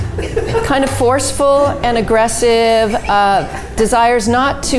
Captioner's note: all laughing